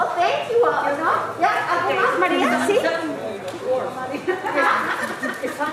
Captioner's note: speaking in foreign language